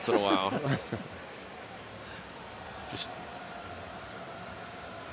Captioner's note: laughter